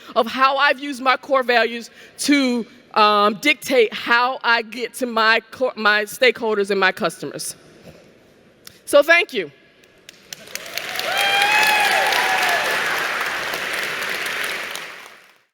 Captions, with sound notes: of how I've used my core values to dictate how I get so my stakeholders and my customers. So, thank you. [Cheering and Applause].